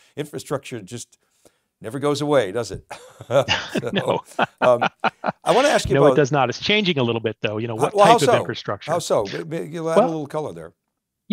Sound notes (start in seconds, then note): 2.9 laughs